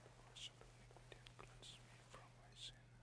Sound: whispering

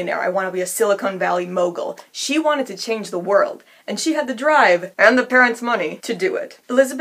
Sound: whispering

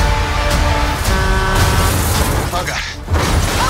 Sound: bus horn blaring

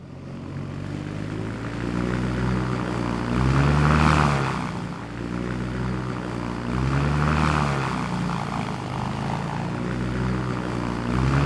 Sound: airboat noise

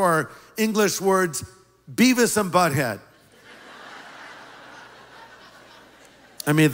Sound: laughter

